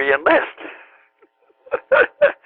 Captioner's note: laughter